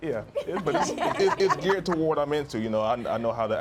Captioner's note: laughs